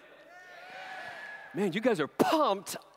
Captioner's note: cheers